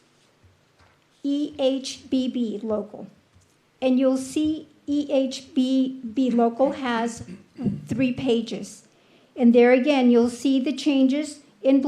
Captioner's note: clears throat